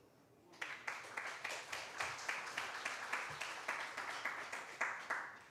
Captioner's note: applause